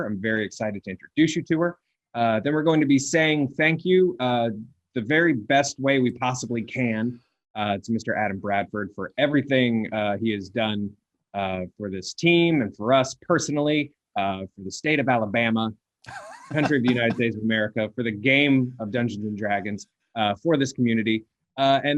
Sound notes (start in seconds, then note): 16.0 chuckling